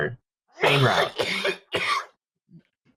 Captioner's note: hacking up something tasty